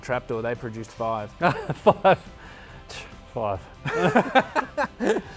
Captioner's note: laughing; laughs